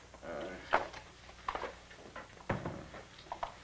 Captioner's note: murmuring